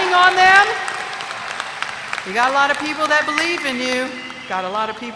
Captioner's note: applause